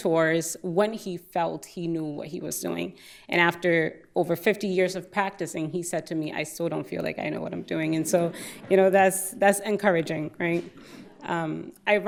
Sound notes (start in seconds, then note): 7.9 audience laughing